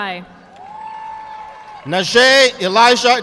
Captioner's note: audience clapping